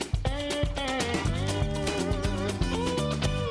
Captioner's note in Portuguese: pássaros piando